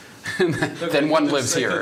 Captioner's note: laughter